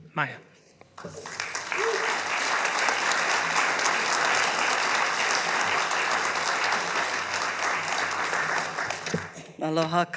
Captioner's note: applause